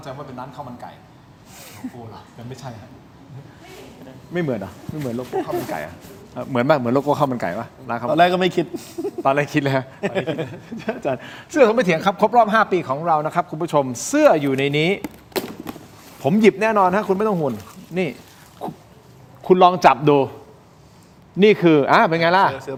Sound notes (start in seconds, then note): 8.2 laughs